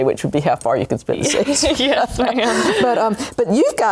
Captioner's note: laughs</i>